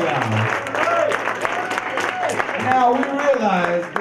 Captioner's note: audience cheers